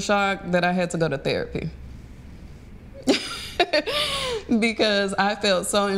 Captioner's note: chuckles